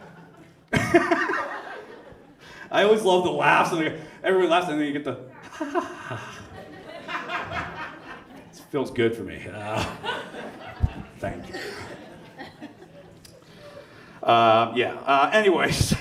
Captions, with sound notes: (laughing) I always love the laughs where everyone laugh. And then you get the "ha ha ha ha." (audience laughs) It feels good for me. Thank you. Yeah. Anyways.